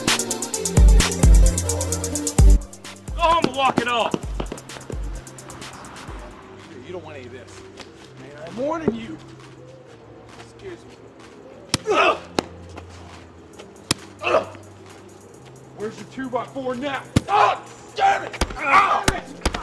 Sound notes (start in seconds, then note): 12.0 Rob groaning; 12.0 blows thudding; 17.7 Rob groaning; 17.7 blow thudding